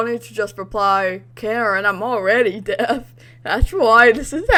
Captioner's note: laughs